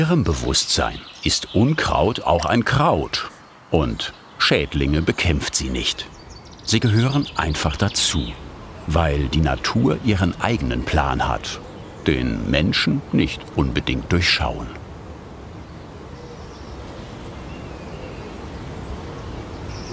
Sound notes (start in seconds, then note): 17.2 birdsong